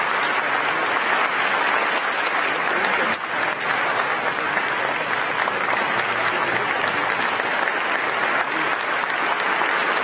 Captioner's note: applause